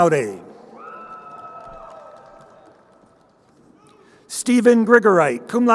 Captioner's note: crowd cheering